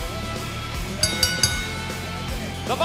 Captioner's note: bell ringing